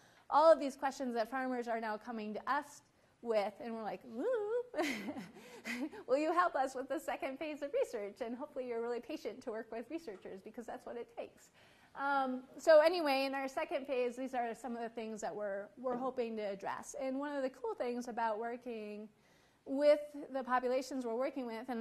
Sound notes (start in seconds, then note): 4.8 laughs